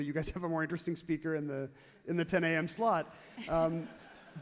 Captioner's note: everyone laughs happily